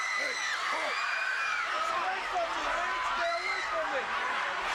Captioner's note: audience cheering